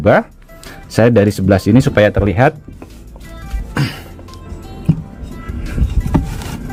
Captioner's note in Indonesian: berdehem